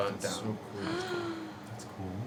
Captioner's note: gasps